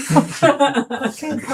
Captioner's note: laughing